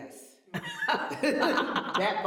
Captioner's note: laughter